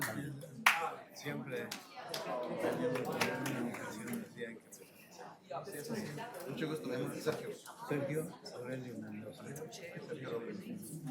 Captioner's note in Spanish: aplausos